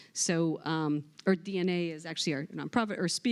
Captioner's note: none